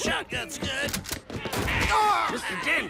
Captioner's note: gun cocks; groans as Harvey; gunshot